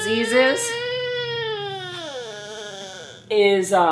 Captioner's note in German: DJ weint